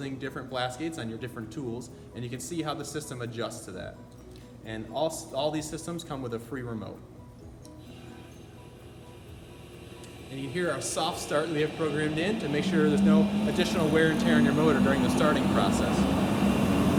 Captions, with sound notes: different blast gates on your different tools and you can see how the system adjusts to that All these systems come with a free remote. (System slowly whirs up) You can hear our soft start we have programmed in to make sure there is no additional wear and tear on your motor during the starting process.